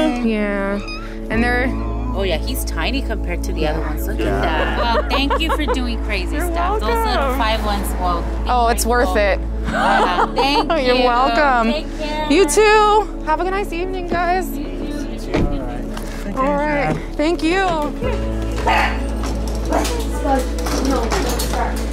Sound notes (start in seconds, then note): 4.3 laughter; 9.6 laughter; 18.6 barks